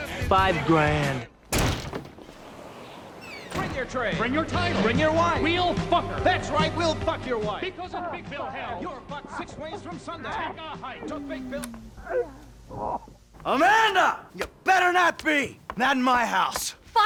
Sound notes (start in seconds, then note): 7.7 sex noises